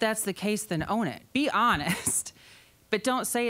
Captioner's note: chuckling